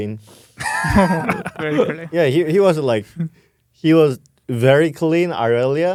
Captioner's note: laughs